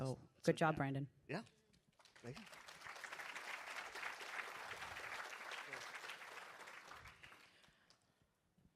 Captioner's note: applause